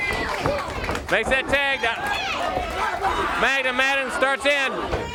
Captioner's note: crowd chatter